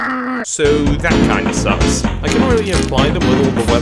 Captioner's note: pained and muffled screaming